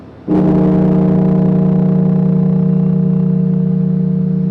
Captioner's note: bell tolling